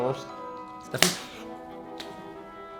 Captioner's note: rip!